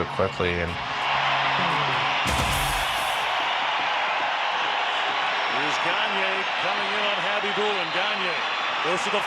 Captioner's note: crowd cheers